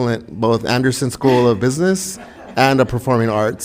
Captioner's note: chuckling